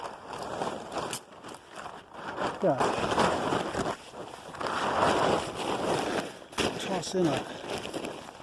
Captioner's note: crinkling noise of a tarp being folded